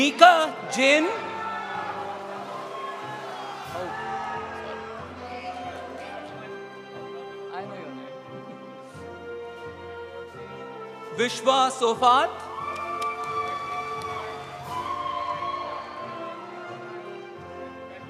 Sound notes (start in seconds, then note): 0.0 audience applauding; 0.0 audience cheering; 0.5 audience applauding; 12.3 audience cheering; 12.3 audience applauding